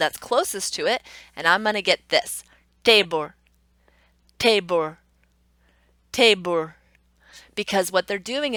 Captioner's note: Indian accent